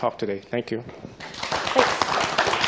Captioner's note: applause